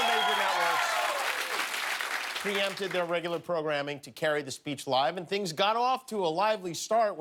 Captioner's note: cheers and applause